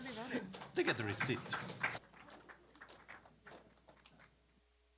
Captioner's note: applause